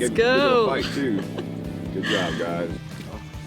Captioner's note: laughing